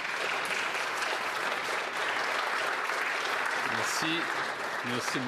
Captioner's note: applause